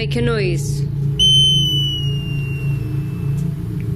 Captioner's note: hissing